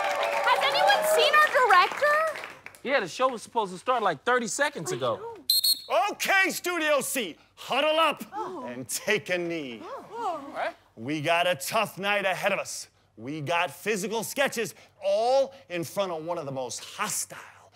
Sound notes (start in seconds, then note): 5.4 whistle blows